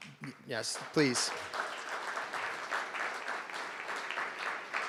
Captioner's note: crowd clapping